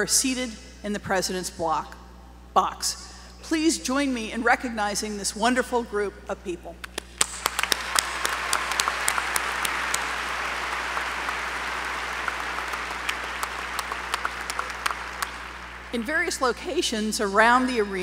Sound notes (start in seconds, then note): 6.8 applause